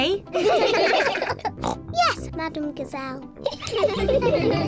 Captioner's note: all laugh; oinks; all giggling